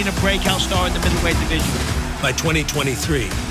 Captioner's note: body crashes to the canvas